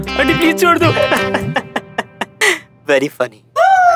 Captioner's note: Uzi laughing